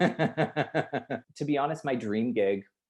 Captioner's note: laughs loudly